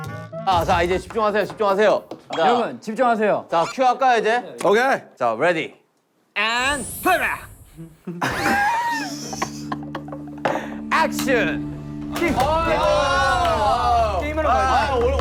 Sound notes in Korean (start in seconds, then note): 7.8 푸흡